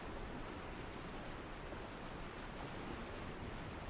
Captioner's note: none